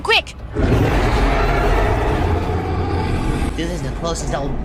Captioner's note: silly mad roars, flames and destruction